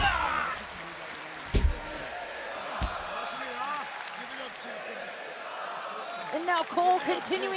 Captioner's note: crowd cheering